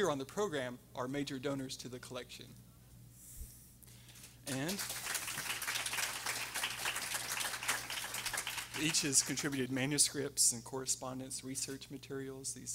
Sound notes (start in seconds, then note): 4.4 everyone applauding